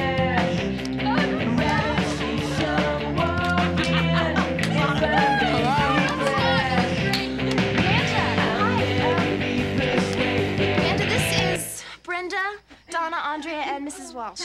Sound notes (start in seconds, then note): 0.3 upbeat rock music; 3.2 girls screaming and laughing